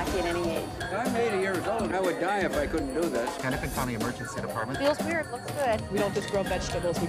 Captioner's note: indistinct chatter